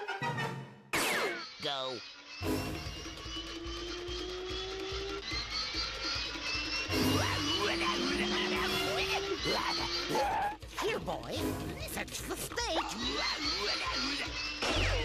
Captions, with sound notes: GO. [growling] HERE, BOY. FETCH THE STEAK.